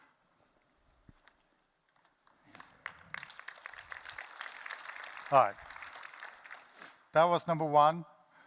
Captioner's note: applause